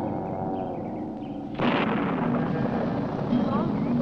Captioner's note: creature moaning; object crashing